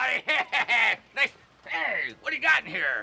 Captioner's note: laughs